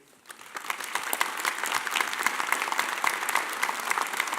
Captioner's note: audience applauding